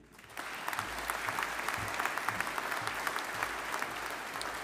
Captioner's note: audience applauding